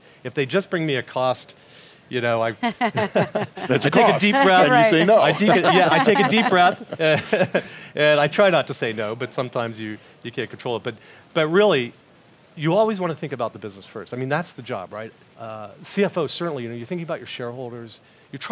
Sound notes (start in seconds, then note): 2.6 laughing; 7.0 chuckles